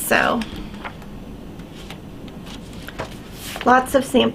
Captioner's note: pages rustling